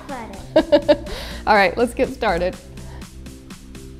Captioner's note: laughs